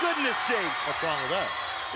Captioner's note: crowd cheers